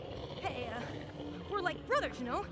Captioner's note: growling